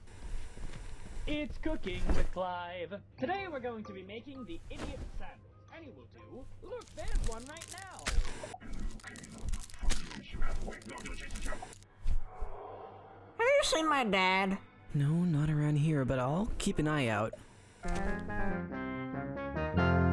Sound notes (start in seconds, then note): 0.0 TV static; 4.9 towel toss; 6.6 unwrapping and eating; 6.6 unwrapping; 8.2 TV static; 11.5 TV static; 17.3 TV static